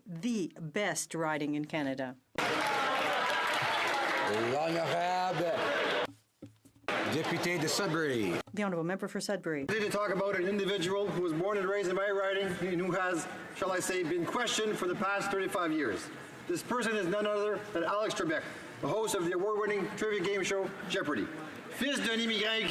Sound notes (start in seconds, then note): 5.9 some Applause